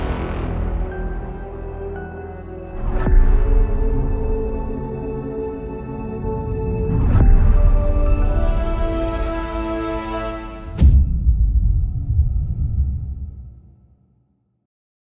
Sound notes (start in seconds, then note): 10.6 dramatic sound